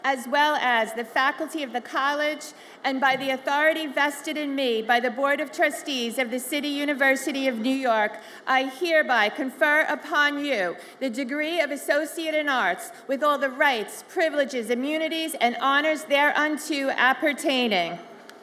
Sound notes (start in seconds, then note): none